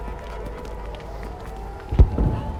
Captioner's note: explosion in distance